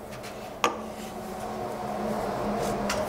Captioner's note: distant street noise